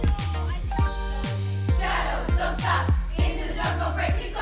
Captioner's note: dancers chant